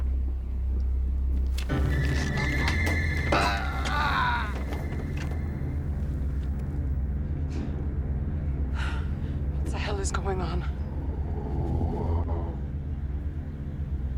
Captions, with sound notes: ( screaming ) ( sighs ) What the hell is going on? ( eerie whirring )